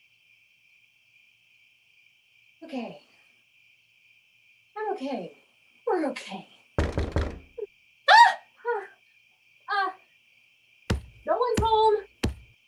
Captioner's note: knocking at door